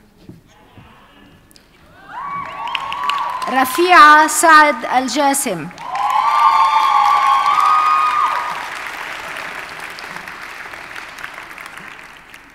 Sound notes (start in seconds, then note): 5.7 audience cheers and applauds